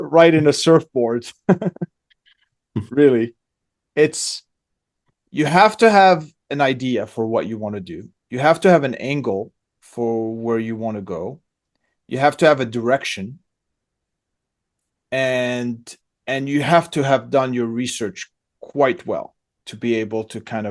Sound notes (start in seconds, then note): 1.4 laughs